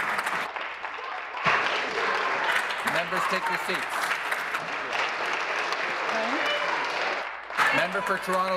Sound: applause

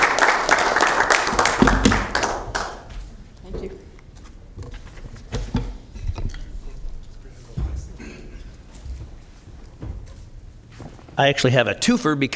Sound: applause

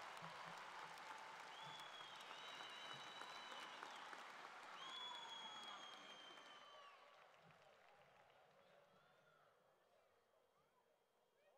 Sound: cheering and Applause

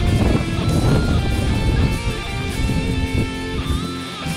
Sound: wind whooshing

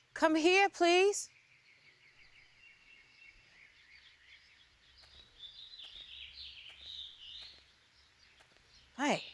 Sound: birds chirping

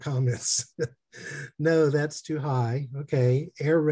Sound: laughter

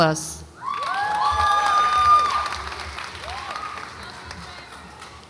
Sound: audience applauds and cheers

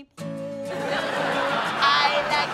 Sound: crowd laughing

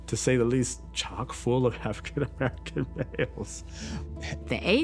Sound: laughing

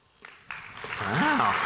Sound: audience clapping

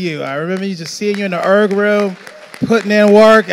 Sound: audience applauding

